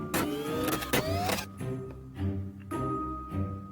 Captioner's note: machine whirring